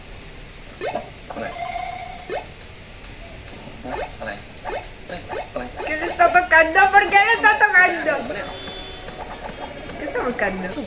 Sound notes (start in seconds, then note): 2.5 video game sounds